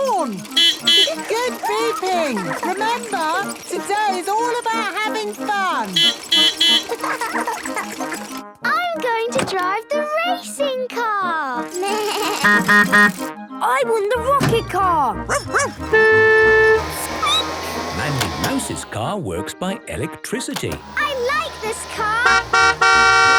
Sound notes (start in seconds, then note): 0.5 beeping; 5.8 beeping; 6.5 laughing; 11.4 bleating; 12.4 honking; 15.3 barking; 15.3 squeaking; 15.4 honking; 20.8 honking